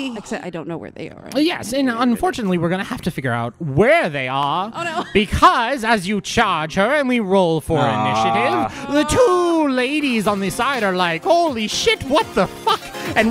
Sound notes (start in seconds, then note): 0.0 gasps; 1.5 beginning to transition into his announcer voice; 5.7 in full announcer voice with outro music beginning